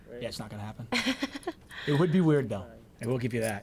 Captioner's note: laughs